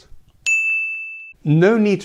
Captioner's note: ping